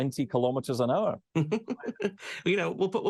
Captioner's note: laughs